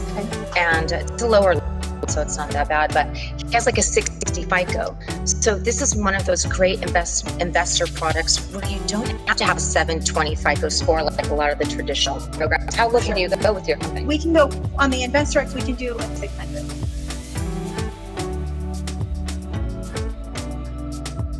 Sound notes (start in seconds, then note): 1.1 distortion; 17.1 distortion